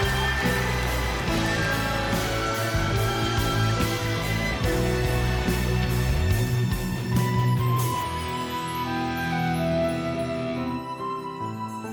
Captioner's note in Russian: аплодисменты; ликование